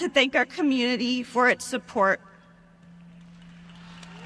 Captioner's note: applause